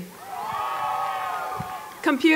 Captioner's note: applause